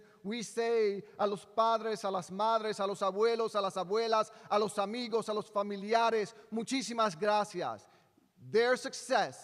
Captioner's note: speaking in spanish